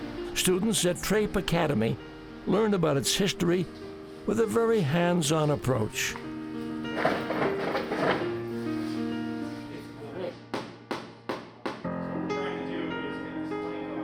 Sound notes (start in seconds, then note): 7.0 tools clattering; 10.5 hammering